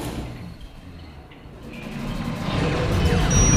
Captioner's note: machine sounds